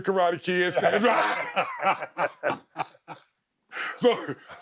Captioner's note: both laughing